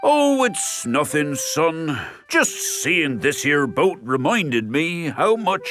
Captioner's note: none